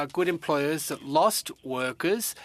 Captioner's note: speaking french